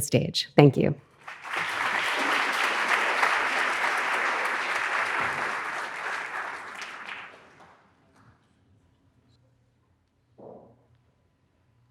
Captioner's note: audience applauding